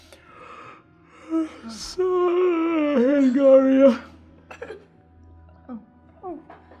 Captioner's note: yawning